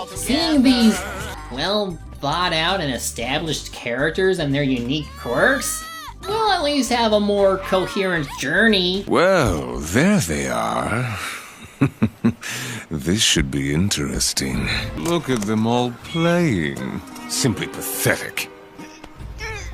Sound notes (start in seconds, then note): 11.8 laughs